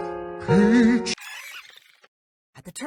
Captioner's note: termite soldier sounds